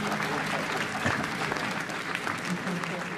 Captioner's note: crowd laughs and cheers